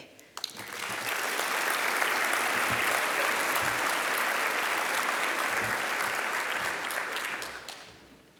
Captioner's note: applause